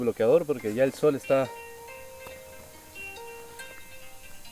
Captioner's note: cell phone rings